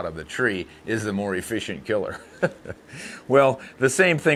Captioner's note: laughing